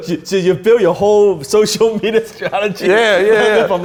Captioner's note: laughs